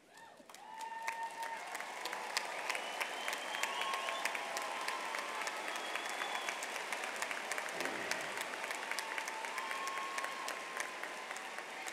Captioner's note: applause